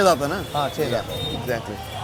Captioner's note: speaking in foreign language